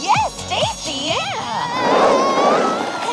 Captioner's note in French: Chelsea crie